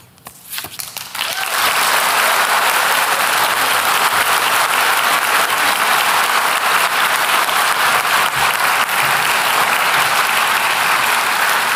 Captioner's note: applause